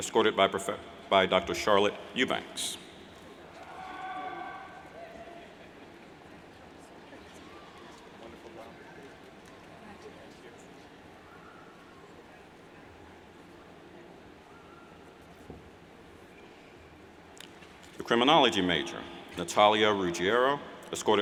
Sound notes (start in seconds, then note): 3.5 yells